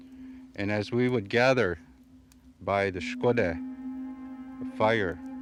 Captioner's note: speaking foreign language